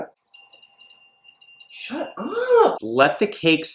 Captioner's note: beeping